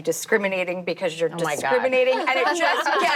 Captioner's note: laughing